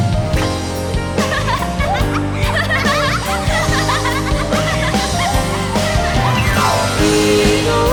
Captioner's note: laughter